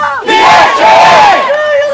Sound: crowd

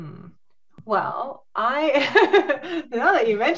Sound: laughs

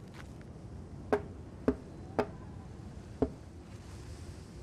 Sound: hammering

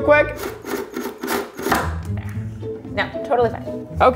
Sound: drill whirring

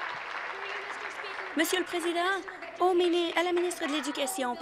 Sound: applause

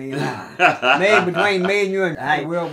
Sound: laughing

